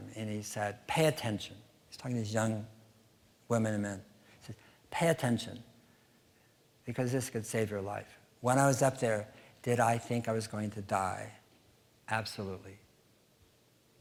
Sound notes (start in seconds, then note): none